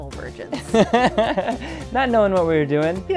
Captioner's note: laughter